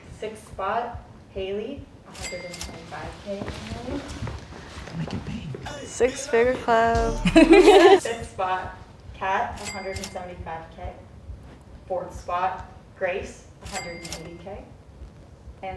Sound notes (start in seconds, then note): 2.1 money Cha-Ching; 7.0 laughing; 9.6 money Cha-Ching; 13.7 money Cha-Ching